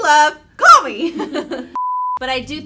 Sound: laughing

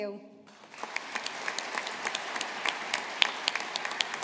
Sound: audience applauding

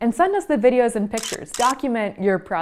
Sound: 2 camera clicks

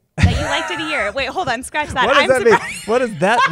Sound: laughs

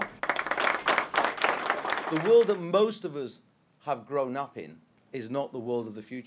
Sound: applause

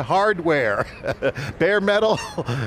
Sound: laughs

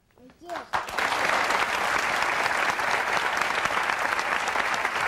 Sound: audience applauding

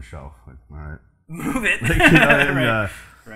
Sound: laughs

